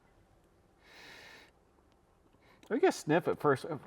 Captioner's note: sniffing